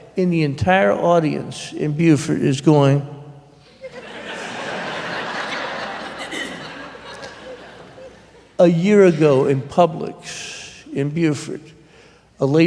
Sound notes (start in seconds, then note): 3.6 laughter